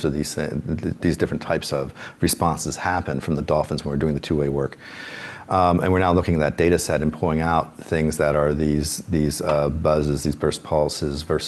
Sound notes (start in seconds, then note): none